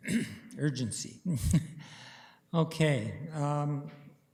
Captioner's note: chuckling